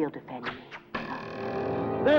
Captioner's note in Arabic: صوت السهم